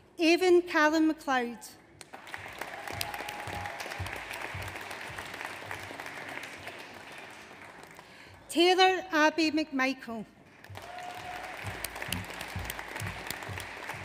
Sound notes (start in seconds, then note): 2.0 audience applauds; 10.5 audience applauds